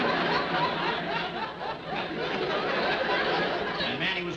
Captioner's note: audience laughing